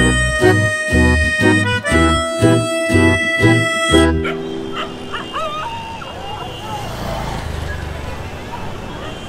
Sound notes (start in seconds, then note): 4.0 dogs barking on road; 7.9 traffic sound